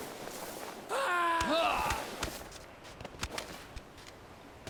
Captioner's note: Trevor screams